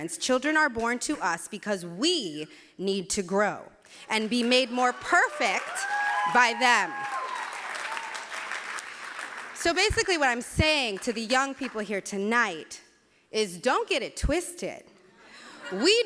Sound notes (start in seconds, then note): 7.0 cheering